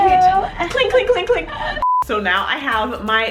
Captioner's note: beeping